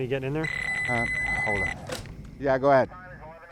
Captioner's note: telephone ringing